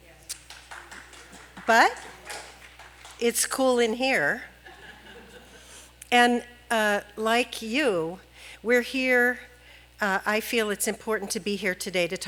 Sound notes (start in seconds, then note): 0.2 clapping; 3.6 laughing